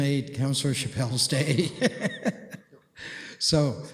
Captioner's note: laughter